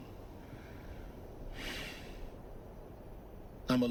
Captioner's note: sigh